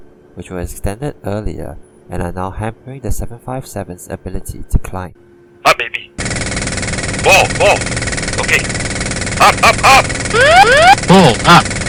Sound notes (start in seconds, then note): 5.6 sound of stick shaker